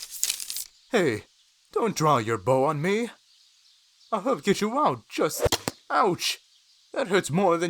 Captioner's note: arrow fires and impacts